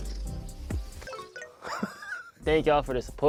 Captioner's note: laughs